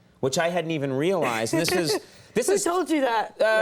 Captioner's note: Scarlett laughing